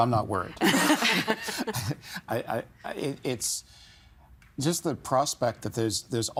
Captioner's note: all laughing; chuckling